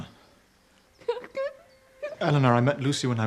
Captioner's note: Elinor sobbing